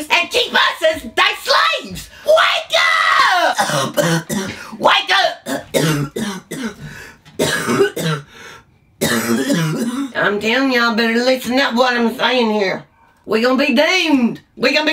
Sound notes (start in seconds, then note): 7.3 coughs